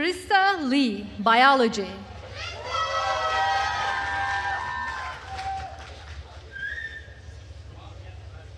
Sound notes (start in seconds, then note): 2.3 attendees cheering and applauding